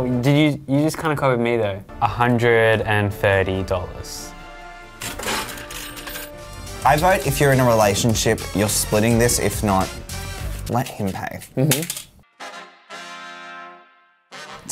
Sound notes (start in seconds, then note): 5.0 change dispensed sound effect; 12.2 playful music